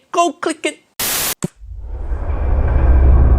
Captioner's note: static crackling; dramatic music